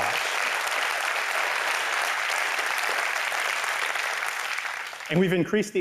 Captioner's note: applause